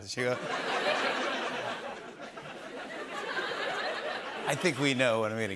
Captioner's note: laughter